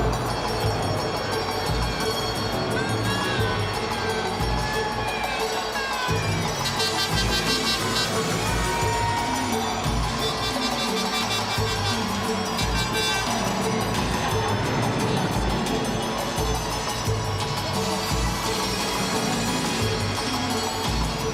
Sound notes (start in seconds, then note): 3.5 crowd chatter